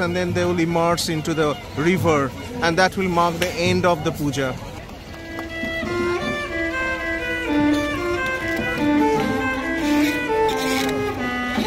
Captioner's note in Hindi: तालियां